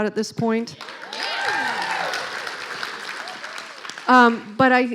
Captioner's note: clapping